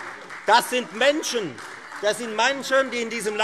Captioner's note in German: Beifall Freie Demokraten